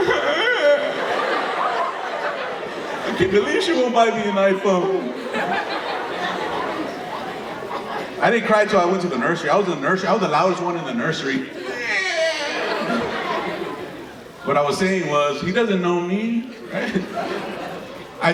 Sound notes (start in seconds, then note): 0.0 crying sound; 5.3 audience laughing; 11.6 crying sound; 13.3 audience laughing